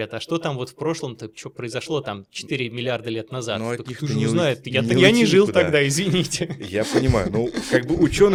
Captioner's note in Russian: смех